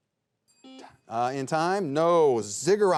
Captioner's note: buzzer beeps